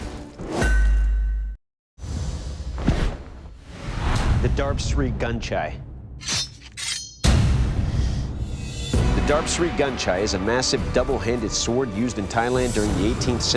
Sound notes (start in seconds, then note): 5.5 slashing effects